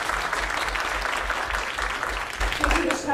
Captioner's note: applause